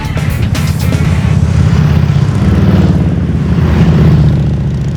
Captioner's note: motorcycles rumbling